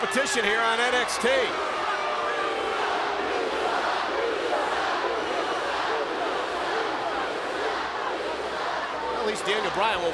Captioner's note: crowd cheering